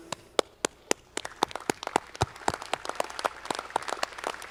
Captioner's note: audience clapping